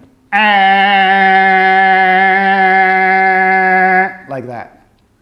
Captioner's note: imitates person laying on car horn